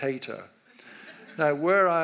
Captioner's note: audience laughs